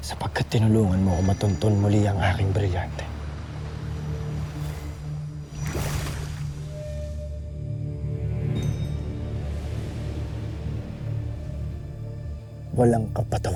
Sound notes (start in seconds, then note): 5.6 energy swirling; 6.5 music swells